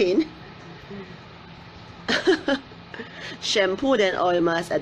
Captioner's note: laughing